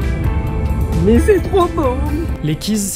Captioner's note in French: ton exagéré